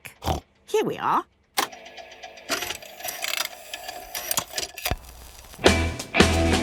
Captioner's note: clicks, whirring